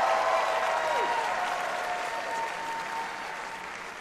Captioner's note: applause